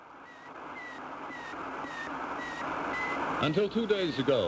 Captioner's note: beeping